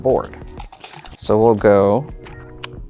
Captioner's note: dice rattling; dice rolling